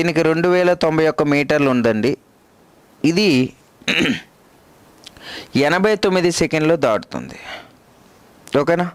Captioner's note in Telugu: దగ్గు